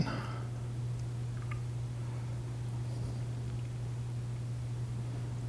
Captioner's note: liquid trickling